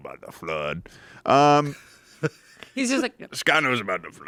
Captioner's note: laughs